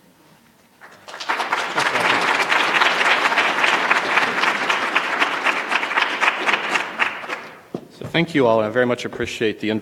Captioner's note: applause